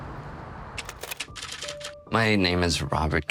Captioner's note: typewriter keys clacking